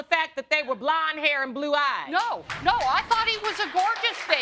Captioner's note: audience clapping